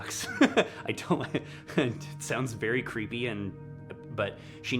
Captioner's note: laughs